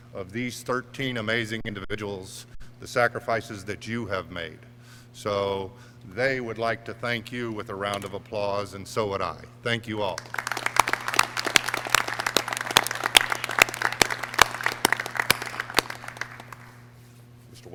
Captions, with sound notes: of these 13 amazing individuals, the sacrifices that you have made. So, they would like to thank you with a round of applause. And so would I, I thank you all! (clapping)